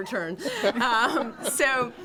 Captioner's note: laughter